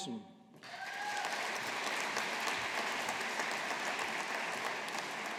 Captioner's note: audience applauding